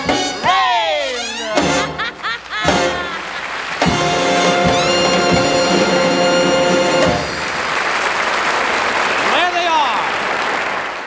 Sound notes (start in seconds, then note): 1.2 laughs; 1.8 upbeat music; 3.4 audience applauds